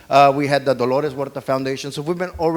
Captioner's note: speaks foreign language